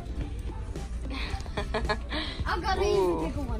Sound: laughs

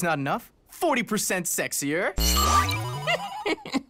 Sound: giggles

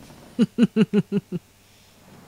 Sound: laughs

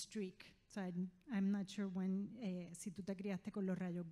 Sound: speaking in foreign language

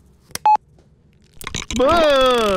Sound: beep

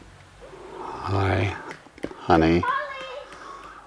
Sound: typing

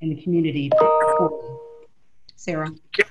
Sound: loud beep

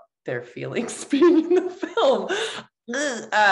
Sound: laugh

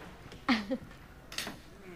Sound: chuckles

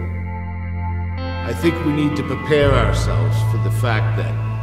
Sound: voice-over

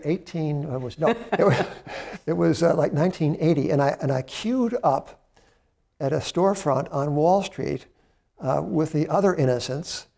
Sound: laughter

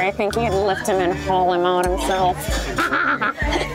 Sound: laughs

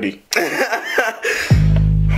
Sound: laughs

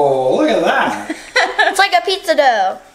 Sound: woman laughing

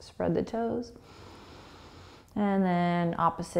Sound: inhaling

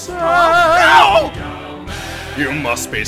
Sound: background voices

